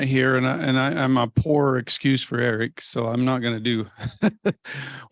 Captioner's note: laughs